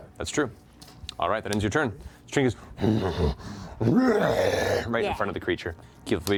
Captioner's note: roars